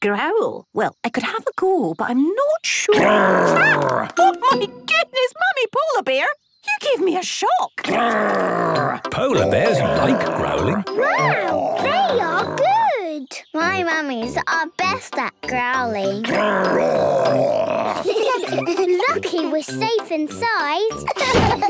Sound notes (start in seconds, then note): 2.9 loud growl; 9.3 loud growls; 16.2 growls; 17.2 giggling